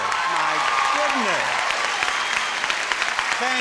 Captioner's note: audience applauding